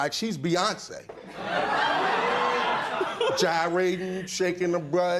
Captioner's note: laughter